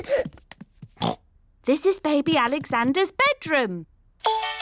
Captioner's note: oinks